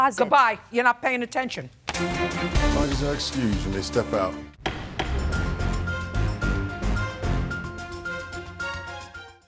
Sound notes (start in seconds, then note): 4.6 gavel banging; 4.9 dramatic music